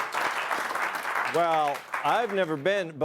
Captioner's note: applause